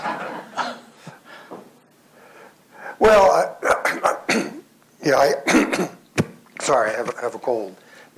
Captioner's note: both laugh; coughs